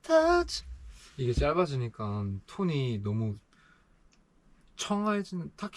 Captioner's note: breath